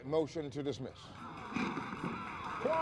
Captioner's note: applause